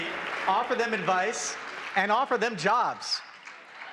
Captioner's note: applause